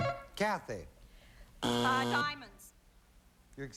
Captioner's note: buzzer